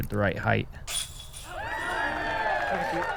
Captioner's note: applause